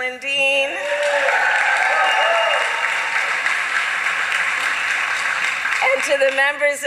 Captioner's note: applause